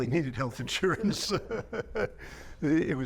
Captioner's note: laughing